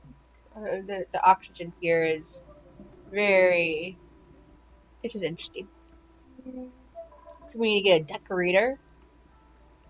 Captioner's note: low hmm